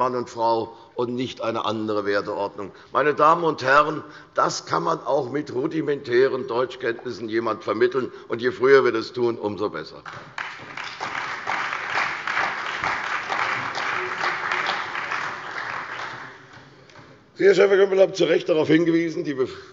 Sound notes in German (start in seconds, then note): 10.0 Beifall bei der CDU und dem BÜNDNIS 90/DIE GRÜNEN